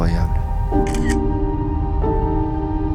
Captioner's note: camera clicking